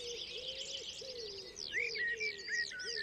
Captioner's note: wood pigeon cooing